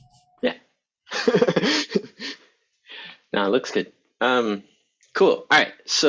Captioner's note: laughing